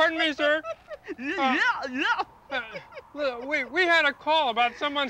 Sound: snickers

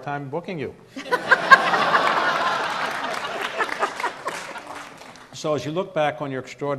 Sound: audience laughs; Rita laughs

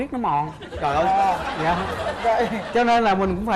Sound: laughing

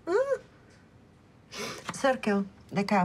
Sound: sniffles

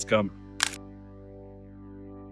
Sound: camera click sound

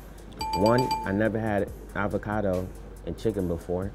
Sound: bells dinging

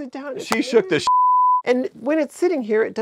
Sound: beep

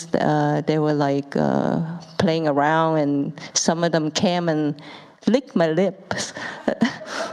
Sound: laughs, audience laughs

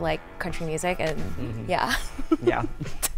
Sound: giggles

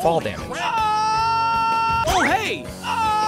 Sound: twinkish screams; twinkish screams resume

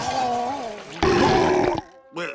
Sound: thudding, groaning; belching

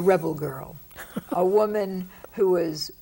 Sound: Ruth laughs

